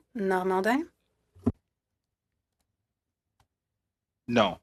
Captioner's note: speaking French